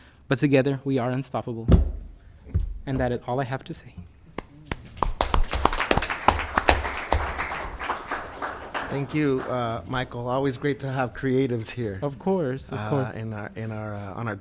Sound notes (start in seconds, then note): 4.7 members applauds